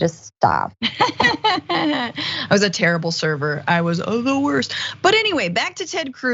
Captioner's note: laugh